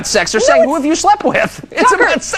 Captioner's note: laughs